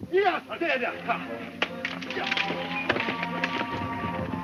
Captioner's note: speaks foreign language; upbeat music